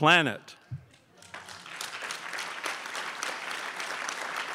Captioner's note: crowd applauds